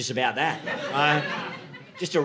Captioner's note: audience laughing